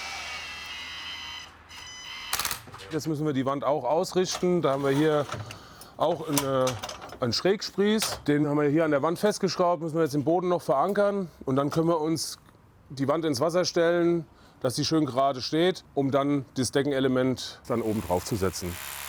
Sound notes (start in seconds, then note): 0.0 cordless drill groans; 1.6 cordless drill rattles